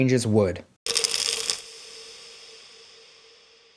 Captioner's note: pills rattling